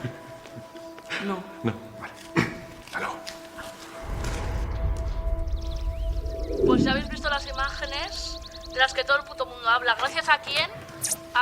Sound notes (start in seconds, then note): 1.4 laughs; 2.3 clears throat